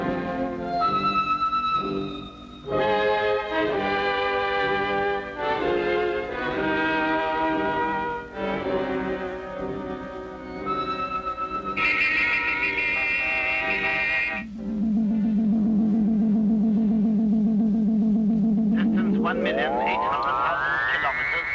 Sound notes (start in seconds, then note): 10.6 horns honking; 13.6 radar pulsing